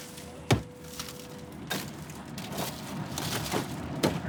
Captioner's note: banging